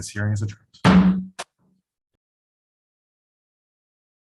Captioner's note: gavel bang